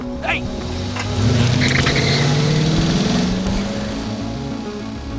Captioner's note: car engine revving